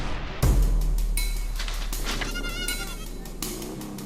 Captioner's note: goat bleating